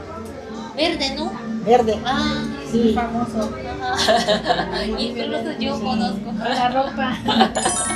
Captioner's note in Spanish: risas